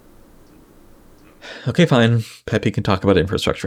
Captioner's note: exhales